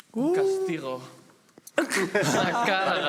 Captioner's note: laughter